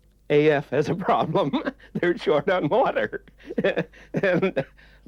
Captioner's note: laughs